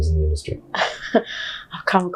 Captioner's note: chuckles